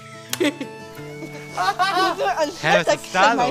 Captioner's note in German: Lachen